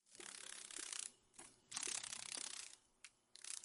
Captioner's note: sounds of a dragon fly